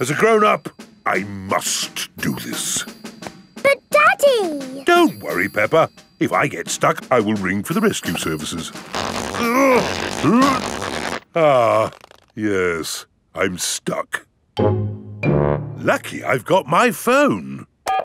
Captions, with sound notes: As a grown-up, I must do this. But, Daddy! Don't worry, Peppa. If I get stuck, I will ring for the rescue services. (GRUNTING) Ah... Yes, I'm stuck. Lucky I've got my phone!